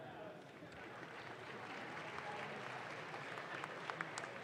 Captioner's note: audience claps